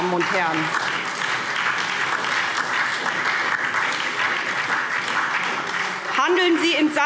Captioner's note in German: Beifall SPD und DIE LINKE